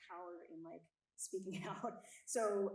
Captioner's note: chuckles